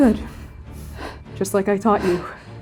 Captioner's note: breathing heavily